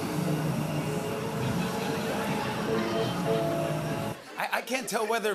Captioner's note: laughter